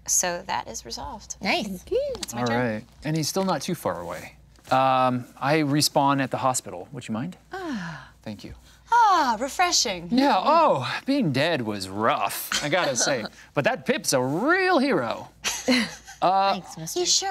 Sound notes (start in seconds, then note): 7.5 woman sighing; 15.4 group laughing